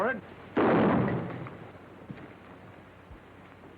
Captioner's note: weapon fires